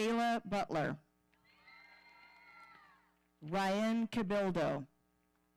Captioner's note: audience cheering